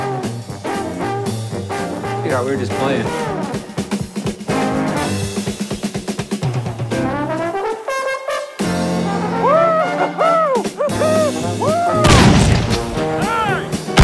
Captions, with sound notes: You know, we were just playin'. Whoo-hoo! -[continues hooting] -[gunshot] Hey!